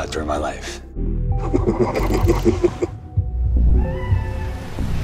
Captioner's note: chuckling